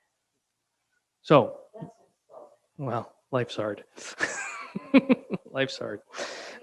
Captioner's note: laughing